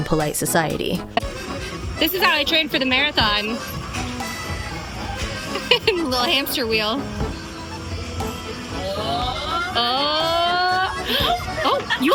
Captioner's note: hoots